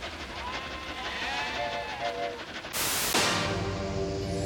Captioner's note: <i> mooing and bleating</i>